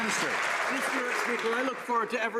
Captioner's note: some Applause